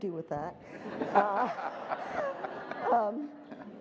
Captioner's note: group laughter